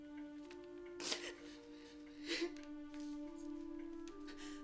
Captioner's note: Jules crying